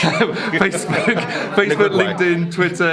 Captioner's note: laughs